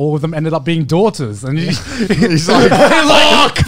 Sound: everyone laughs

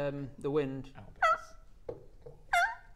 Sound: yelp; howl

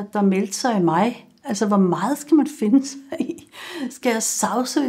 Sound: chuckles

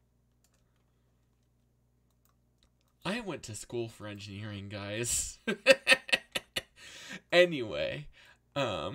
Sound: laughs

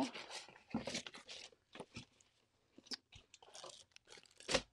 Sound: packaging rustles

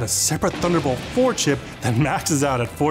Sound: thunder rumbles

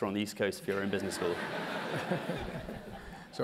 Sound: laugh

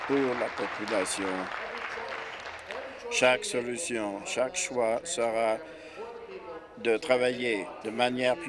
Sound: applause

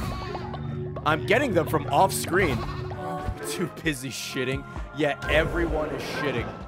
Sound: laughs

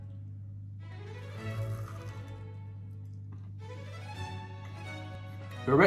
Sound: macaron crunching

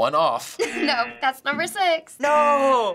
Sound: buzzer

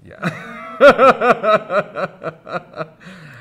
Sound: laughter

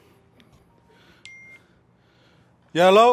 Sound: phone dinging

